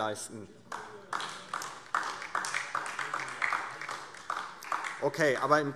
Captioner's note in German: Beifall DIE LINKE